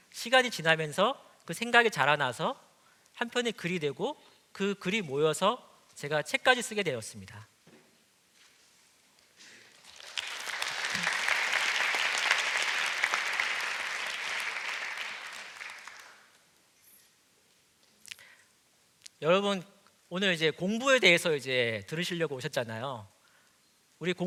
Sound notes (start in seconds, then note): 9.6 applause